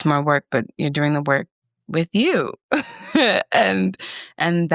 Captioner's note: chuckles